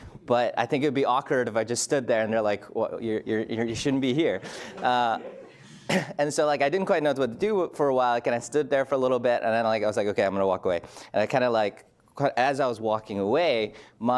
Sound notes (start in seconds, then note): 4.4 laughs